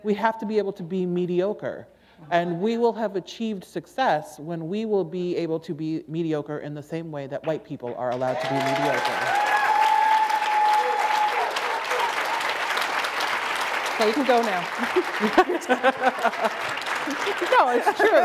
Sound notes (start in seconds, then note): 9.9 applause; 13.2 laughter